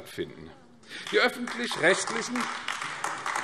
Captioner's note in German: Beifall AfD